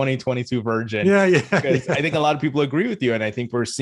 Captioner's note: laughs